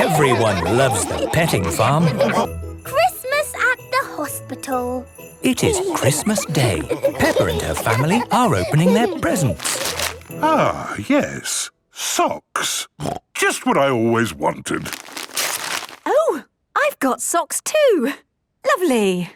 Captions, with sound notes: Everyone loves the Petting Farm! - It is Christmas day! Peppa and her family are opening their presents. - Ah, yes. Socks! Just what I always wanted! - (tearing) - Oh! I've got socks too. Lovely!